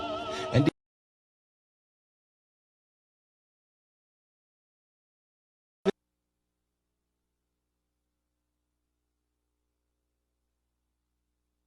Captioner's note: silence